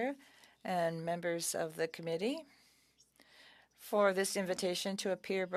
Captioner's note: speaking French